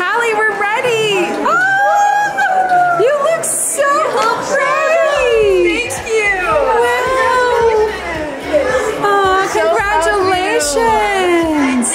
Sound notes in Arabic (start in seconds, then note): 1.1 ضيوف يهتفون